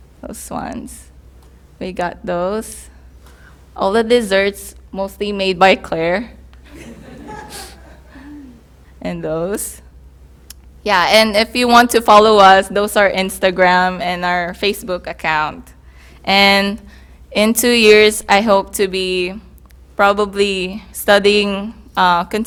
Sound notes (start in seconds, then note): 6.7 laughter